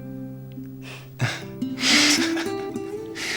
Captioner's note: laughs